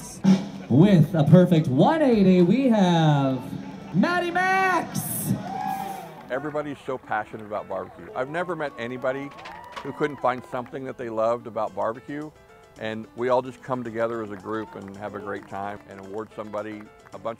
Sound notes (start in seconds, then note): 0.2 drum roll in background; 5.0 crowd cheering